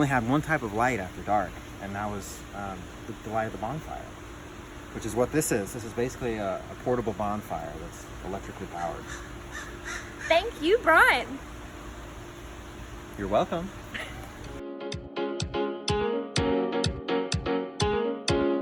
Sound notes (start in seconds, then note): 13.9 laughing; 14.6 upbeat music playing